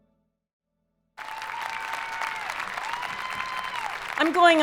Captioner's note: audience applauding